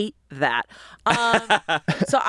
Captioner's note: laughs